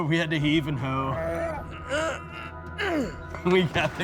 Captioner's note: both grunting